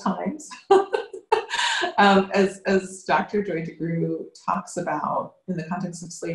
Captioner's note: laughs